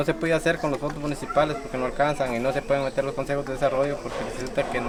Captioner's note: speaking foreign language